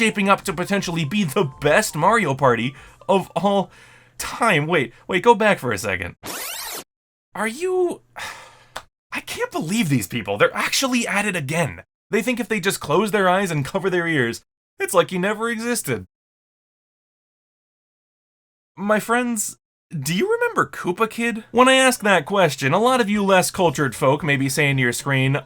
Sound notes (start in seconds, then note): 8.1 sigh